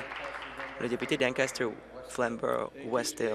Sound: applause

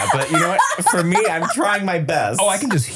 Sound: laughing

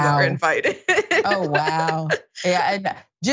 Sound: laugh

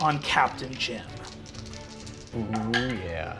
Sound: dice rolling

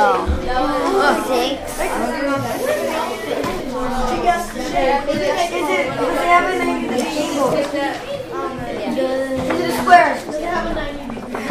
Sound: students talking in the background

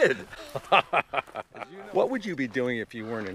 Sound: laughing

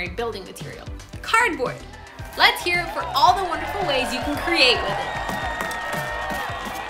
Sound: cheers

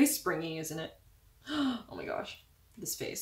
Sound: gasp

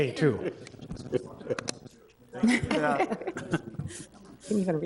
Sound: attendees chuckle

